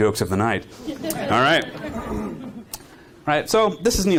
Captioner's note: audience laughing